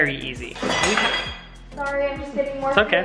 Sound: plates crashing

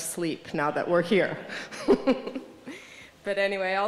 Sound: laughter

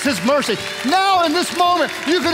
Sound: congregation applauding

